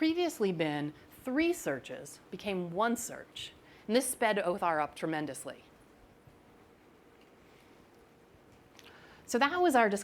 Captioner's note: pause